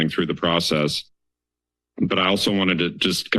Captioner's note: pause